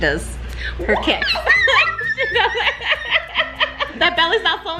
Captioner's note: high pitched squealing; laughing